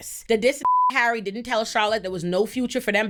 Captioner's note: beep